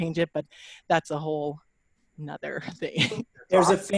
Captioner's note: laughs